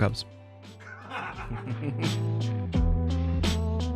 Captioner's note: everyone laughs; chill music